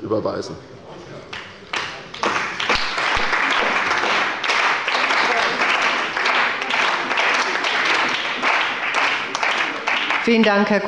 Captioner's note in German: Beifall bei Abgeordneten der CDU und des BÜNDNISSES 90/DIE GRÜNEN